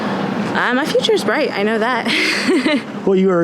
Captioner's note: laughing